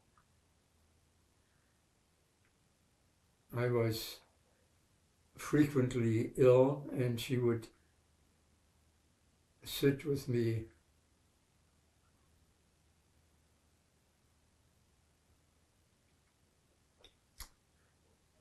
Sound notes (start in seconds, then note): 11.1 pauses 8 seconds